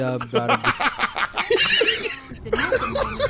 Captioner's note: laughing